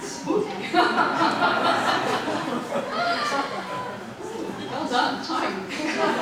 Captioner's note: audience laughing; audience laughing